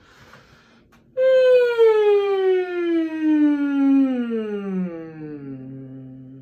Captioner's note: a humming noise that goes up and down